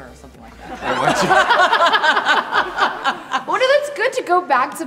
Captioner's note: all laughing together